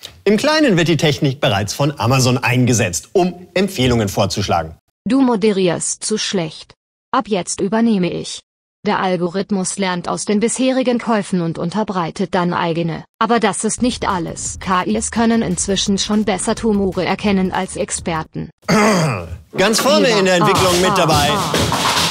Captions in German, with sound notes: Im Kleinen wird die Technik bereits von Amazon eingesetzt, um Empfehlungen vorzuschlagen. Du moderierst zu schlecht. Ab jetzt übernehme ich. Der Algorithmus lernt aus den bisherigen Käufen und unterbreitet dann eigene, aber das ist nicht alles. KIs können inzwischen schon besser Tumore erkennen als Experten. (Verärgerter Laut) Ganz vorne in der Entwicklung mit dabei ...